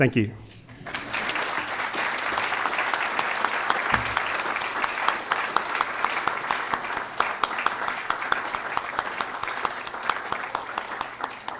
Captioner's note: applause